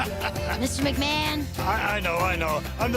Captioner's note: laughter